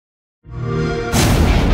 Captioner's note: Xbox Sound